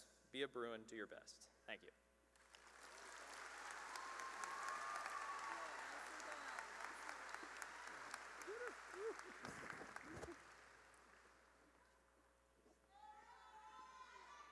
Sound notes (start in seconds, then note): 2.4 cheering and applause